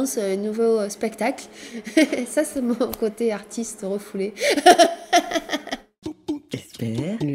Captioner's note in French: rires